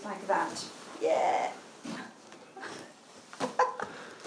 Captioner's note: laughs